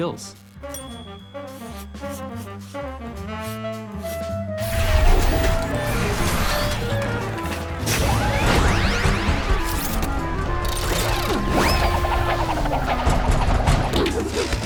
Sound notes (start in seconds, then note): 4.0 robots whir